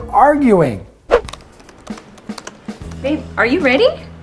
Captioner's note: whooshing sound